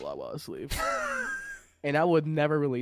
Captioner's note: wheezing